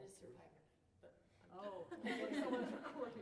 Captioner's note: laughter